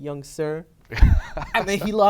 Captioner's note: laughter